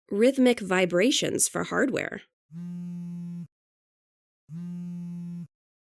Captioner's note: haptic vibrations buzzing